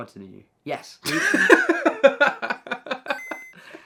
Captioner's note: laughs